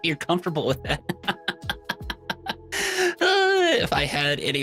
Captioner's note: laughs